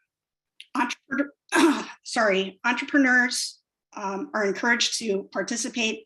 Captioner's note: clears throat